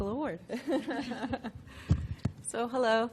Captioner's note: laughter